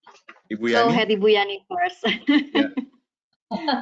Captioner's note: chuckles